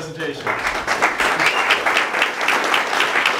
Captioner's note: crowd applauds